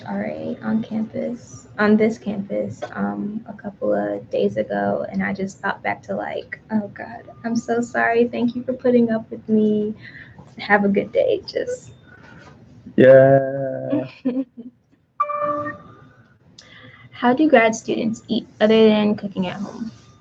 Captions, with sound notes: - Got into my college RA on campus, on this campus a couple of days ago and I just thought back to like, oh god, I'm so sorry, thank you for putting up with me and have a good day, just. - Yeah, (laughing) (computer dings) - How do you grad students eat other than cooking at home?